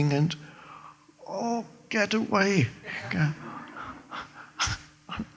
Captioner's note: laughs